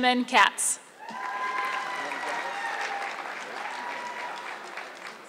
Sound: audience clapping

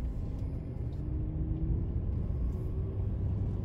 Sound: engine roaring

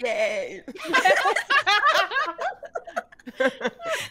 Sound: laughing

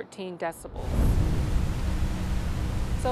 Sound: waterfall thundering

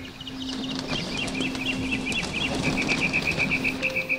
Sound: birds chirping

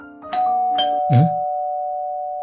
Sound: doorbell

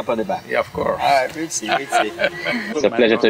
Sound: laughs

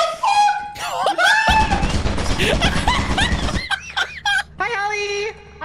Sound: gasps; laughs; turret fires, screams; laughs

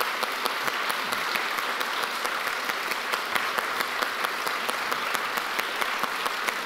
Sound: presenter and audience clapping

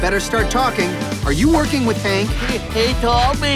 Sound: stuttering

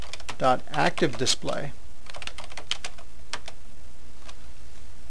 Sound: typing

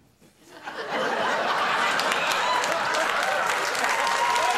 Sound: audience applauding

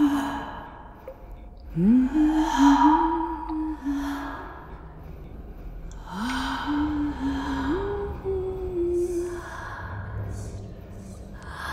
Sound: water drips in a cavernous space, the whispers becoming louder, more insistent

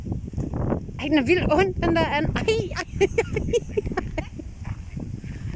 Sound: laughing

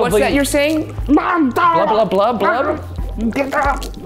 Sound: groaning

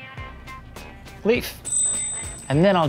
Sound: ding

